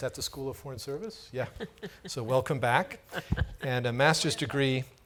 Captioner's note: laughs